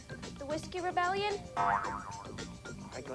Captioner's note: boing